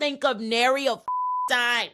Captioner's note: beep